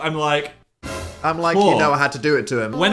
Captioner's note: dramatic sound